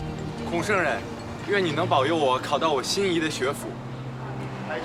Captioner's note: hablan un idioma extranjero